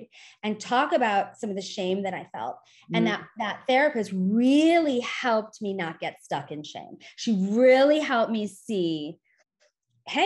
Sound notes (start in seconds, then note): none